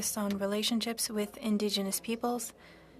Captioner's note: speaking French